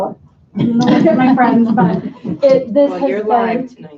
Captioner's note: laughter